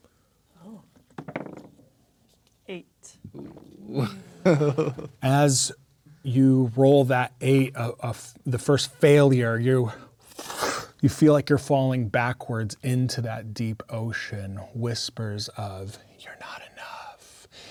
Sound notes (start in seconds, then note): 1.0 dice rolling; 3.8 laughing; 10.0 makes sucking sound